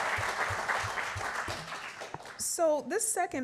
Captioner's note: applause